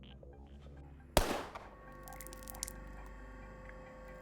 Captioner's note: gun firing